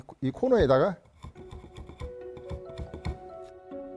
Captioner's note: planing sound